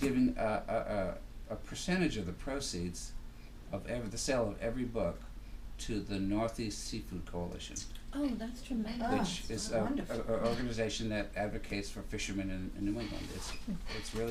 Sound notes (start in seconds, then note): 8.2 voiceover